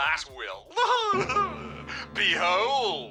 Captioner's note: laughs; sinister music